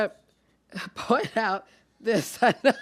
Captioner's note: chuckles